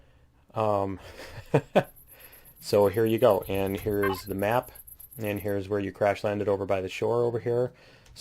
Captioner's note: laughs